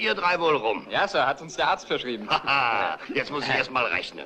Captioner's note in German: lacht